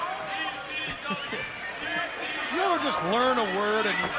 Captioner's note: crowd chatter